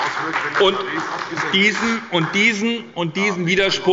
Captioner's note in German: Beifall bei der SPD